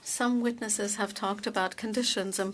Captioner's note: speaking French